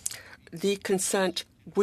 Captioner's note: speaking French